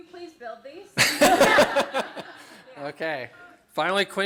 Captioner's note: laughter